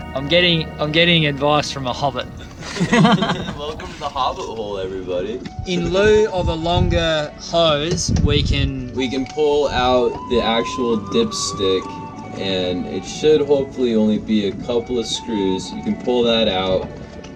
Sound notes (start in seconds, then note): 2.5 laughter